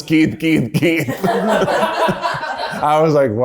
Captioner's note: everyone laughs happily